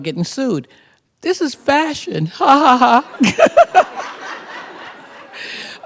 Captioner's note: laughter